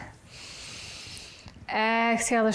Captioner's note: inhales